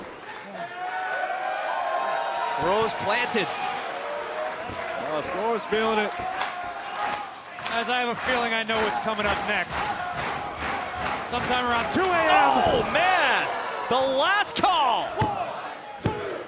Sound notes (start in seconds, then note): 3.7 crowd cheering